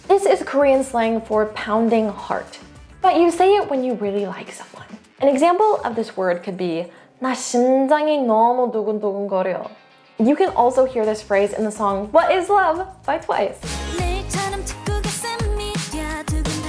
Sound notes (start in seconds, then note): 8.4 speaking in Korean